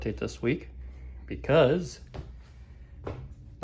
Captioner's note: footsteps